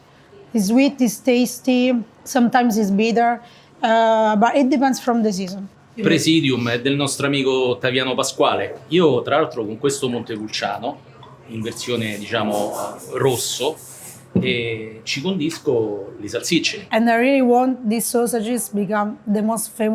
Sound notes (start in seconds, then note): 6.0 speaking in foreign language